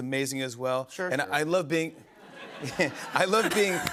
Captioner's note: laughter